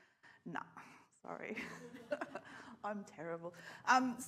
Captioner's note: laughs